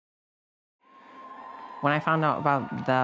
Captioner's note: crowd cheering